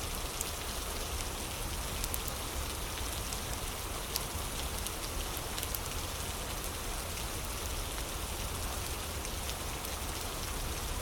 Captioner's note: fire crackling